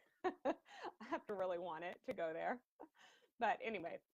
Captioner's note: laughing